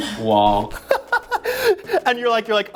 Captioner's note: laughs